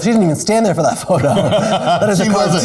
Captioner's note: laughs